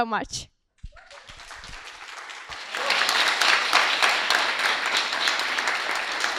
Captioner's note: applause